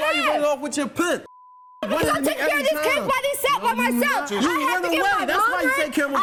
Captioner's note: yelling